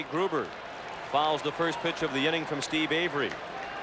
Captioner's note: applause